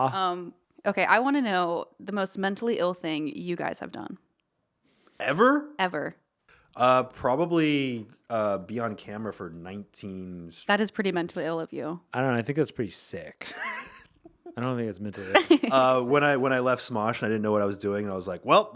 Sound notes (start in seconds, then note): 13.4 laughing